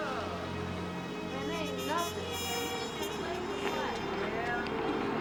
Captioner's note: people chattering indistinctly